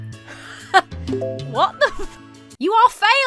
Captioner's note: lighthearted music; chuckles